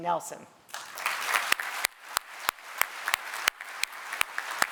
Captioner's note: applause